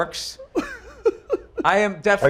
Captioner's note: laughs